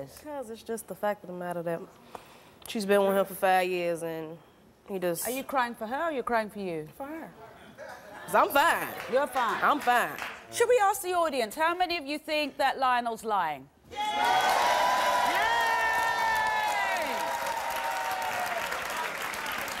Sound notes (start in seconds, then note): 13.9 audience cheering and applause